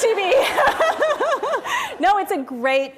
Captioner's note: laughter